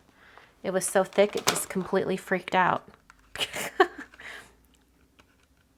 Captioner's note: laughs